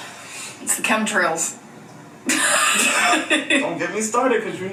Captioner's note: laughs